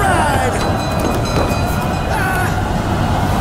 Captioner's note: ship's bell rings; he yells